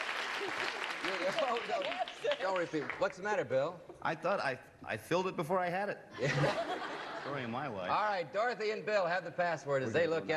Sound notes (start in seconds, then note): 6.1 laughter